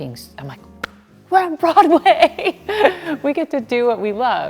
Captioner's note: laughing